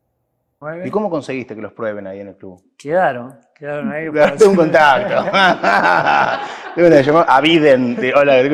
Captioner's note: laughs